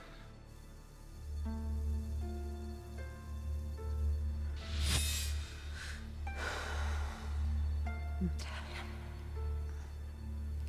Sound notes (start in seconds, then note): 5.2 Theodocia sighs